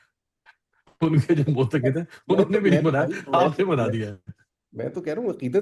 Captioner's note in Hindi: हंसी